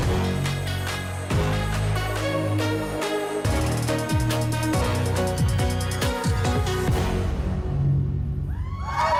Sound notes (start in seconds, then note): 0.7 cheers and applause